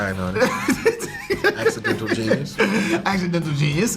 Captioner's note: Kel laughing